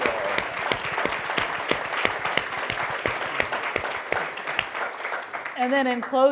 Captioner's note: applause